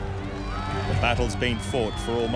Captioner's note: crowd cheering